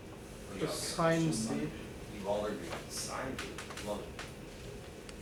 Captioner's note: students mumbling